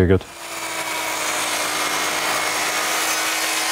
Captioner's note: loud machine roar